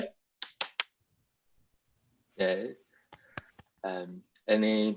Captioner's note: clapping hands